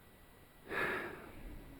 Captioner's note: sighs